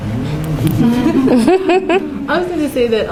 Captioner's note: laughing